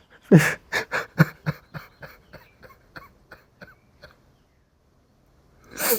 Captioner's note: laughing